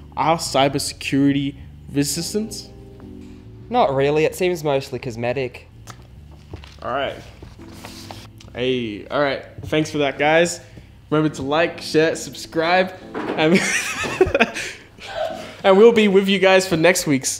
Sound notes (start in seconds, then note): 13.5 laughs